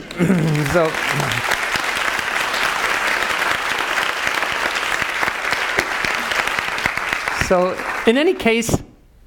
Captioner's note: applause